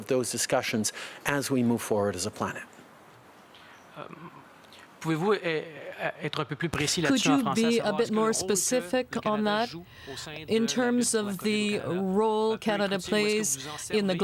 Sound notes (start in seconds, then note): 12.2 speaking French